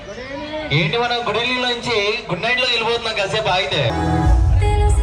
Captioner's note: chatter in Telugu